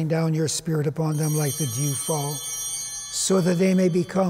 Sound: chimes ringing

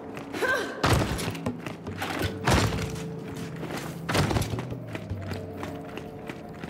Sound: footsteps

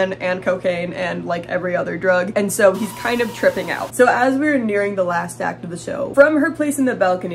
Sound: screaming

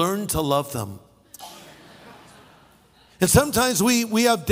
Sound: audience laughing

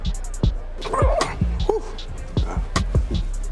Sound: choking sound

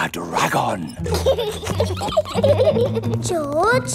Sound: both giggling

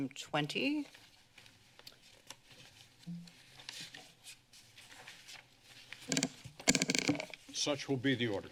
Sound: paper rustling

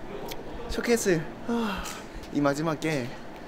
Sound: A sigh of relief

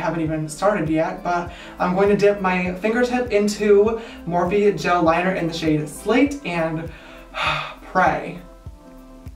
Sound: sigh

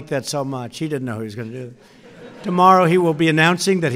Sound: laughter

